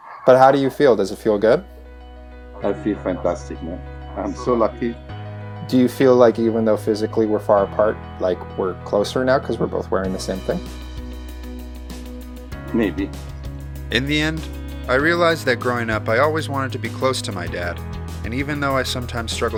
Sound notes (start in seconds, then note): 14.1 voiceover